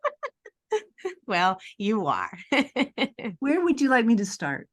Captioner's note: laughter